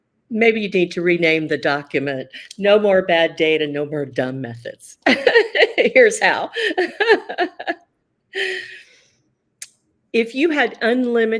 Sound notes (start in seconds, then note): 6.3 laughs